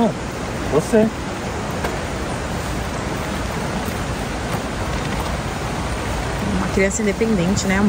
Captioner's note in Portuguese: água corrente